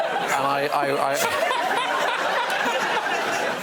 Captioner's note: laughter